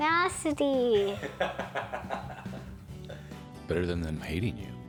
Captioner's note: Rick laughs